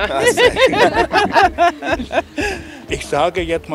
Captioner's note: Lachen